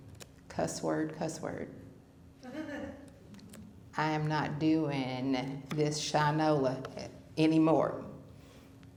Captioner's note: laughter